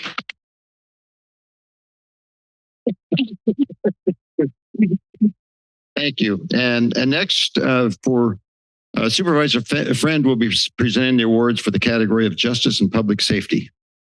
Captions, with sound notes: [applause] [laughs] - Thank you. And, and next, uh, for, uh, Supervisor Friend will be presenting the awards for the category of Justice and Public Safety.